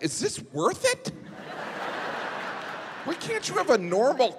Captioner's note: audience laughing